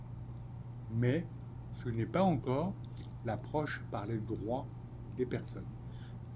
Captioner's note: speaking French